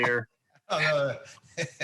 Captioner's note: laughs